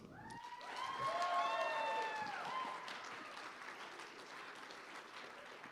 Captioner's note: applause